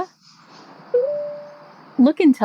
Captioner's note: Meta beeps